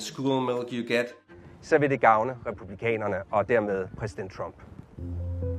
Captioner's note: speaking in foreign language; soft music